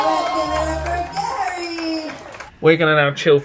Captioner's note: audience applauding; people cheering